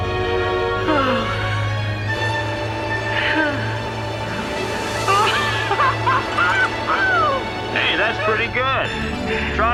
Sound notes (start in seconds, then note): 5.1 laughing